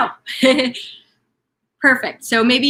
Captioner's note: chuckling